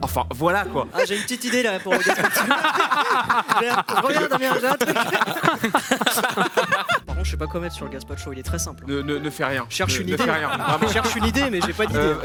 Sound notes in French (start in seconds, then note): 2.6 rires; 5.4 rires